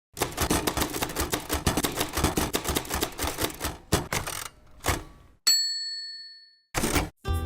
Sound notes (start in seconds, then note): 0.2 typing; 5.4 bell ringing